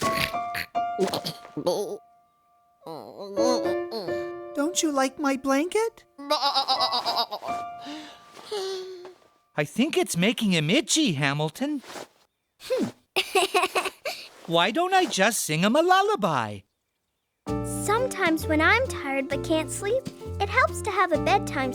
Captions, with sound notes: [ Grunts of restlessness ] [ Moaning ] DON'T YOU LIKE MY BLANKET? [ Sad bleating ] [ Sigh of fatigue ] I THINK IT'S MAKING HIM ITCHY, HAMILTON. HMPH! [ Giggling ] WHY DON'T I JUST SING HIM A LULLABY? SOMETIMES WHEN I'M TIRED BUT CAN'T SLEEP, IT HELPS TO HAVE A BEDTIME SNACK